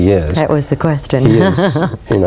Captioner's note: laughs